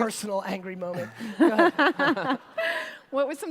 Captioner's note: laughter